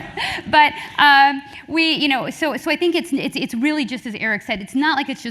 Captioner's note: laugh